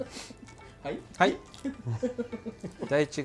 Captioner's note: laugh